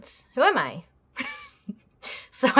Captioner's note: laughs